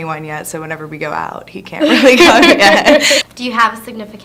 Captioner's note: both laughing